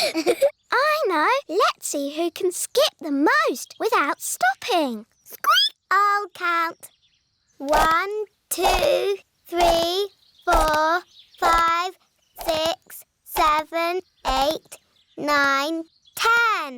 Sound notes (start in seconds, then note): 4.7 squeaks